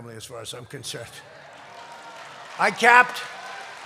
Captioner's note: applause